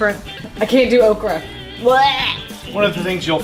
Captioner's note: groans